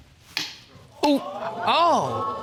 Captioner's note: thud; audience exclaiming